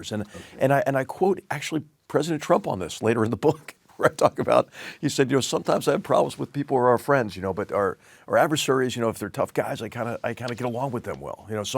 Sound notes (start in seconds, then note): 4.2 laugh